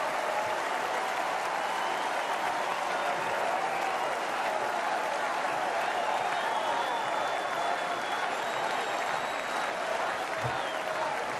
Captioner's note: applause